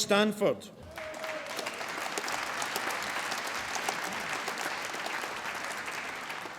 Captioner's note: applause